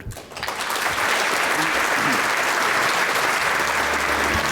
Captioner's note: applause